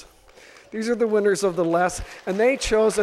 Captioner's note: audience applause